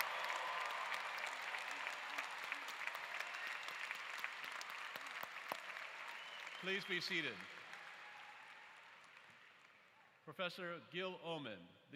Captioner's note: applause